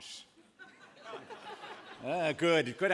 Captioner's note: laughter